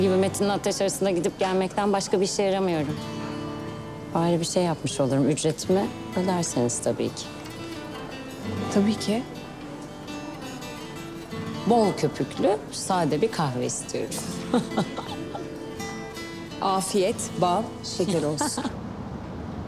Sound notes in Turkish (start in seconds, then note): 14.1 Selin gülüyor